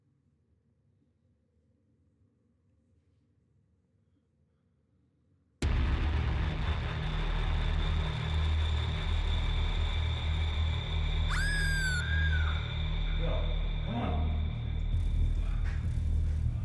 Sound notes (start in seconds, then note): 6.5 ominous music; 11.3 Ellie screaming